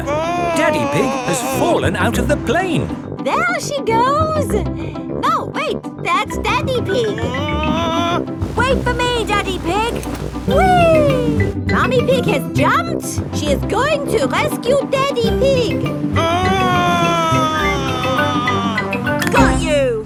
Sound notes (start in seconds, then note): 7.2 screaming; 16.2 screaming